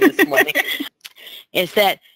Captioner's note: laughs